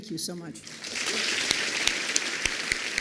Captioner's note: applause